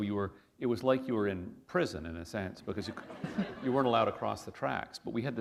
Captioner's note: chuckle